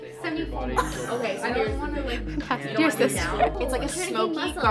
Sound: guest chuckles

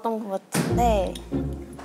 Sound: slam

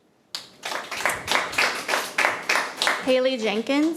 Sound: attendees clapping

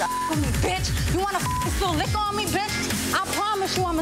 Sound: beep

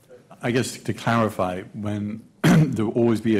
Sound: clears throat

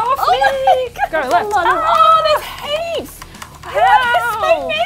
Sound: screams

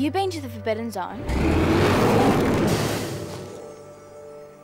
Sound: roaring

